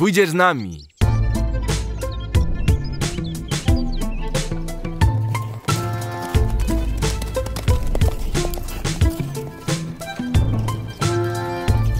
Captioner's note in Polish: dźwięk galopujących koni